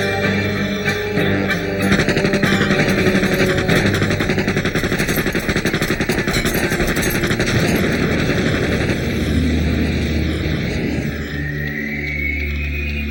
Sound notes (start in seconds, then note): 1.8 gunshots fire; 7.5 car explodes